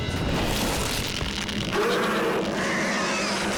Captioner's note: roaring